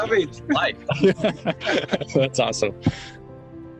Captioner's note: laughing